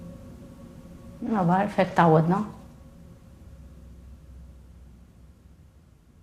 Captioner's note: speaking in foreign language